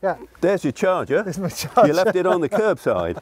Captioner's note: laughs